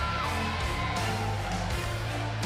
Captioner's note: cheers and applause